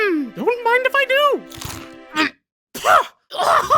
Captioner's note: gagging sounds